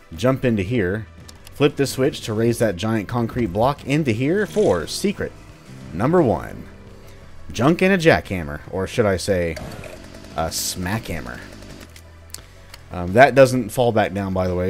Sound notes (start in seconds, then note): 4.3 riff plays; 9.5 Jackie, or should I say Smackie, revs